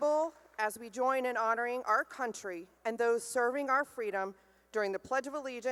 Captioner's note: none